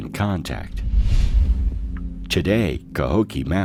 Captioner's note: air whooshing